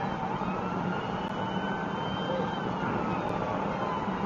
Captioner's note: police car siren